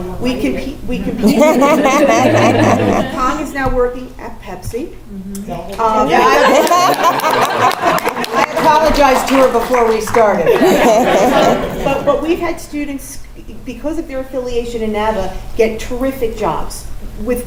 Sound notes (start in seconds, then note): 6.0 laugh; 6.4 applause; 10.4 laugh